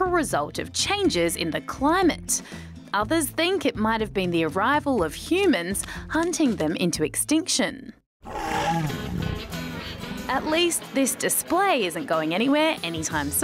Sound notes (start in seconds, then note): 8.2 growling